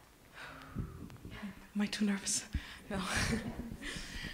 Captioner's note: laughs